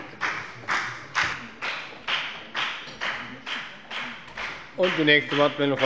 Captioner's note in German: Beifall bei der FDP